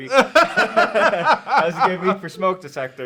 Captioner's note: both laughing